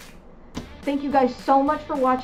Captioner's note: clap